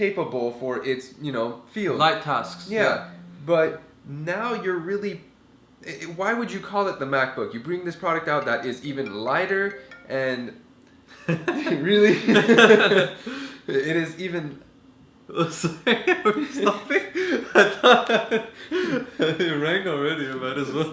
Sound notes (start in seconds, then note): 10.9 ringing; 12.0 laugh; 15.6 laugh